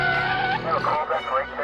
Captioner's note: tires squealing